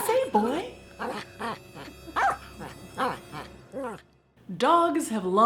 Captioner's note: dog whining and barking